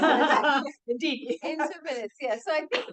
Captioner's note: attendees laughs